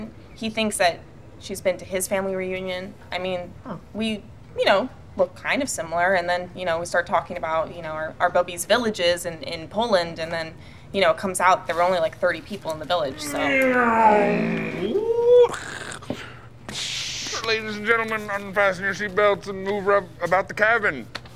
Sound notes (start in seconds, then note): 13.1 Marty makes airplane noises